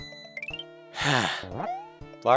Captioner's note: sigh